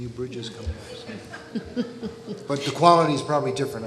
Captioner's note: audience laughing